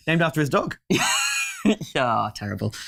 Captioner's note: laughing